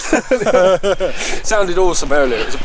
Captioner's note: both laugh